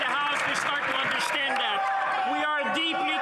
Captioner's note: some Applause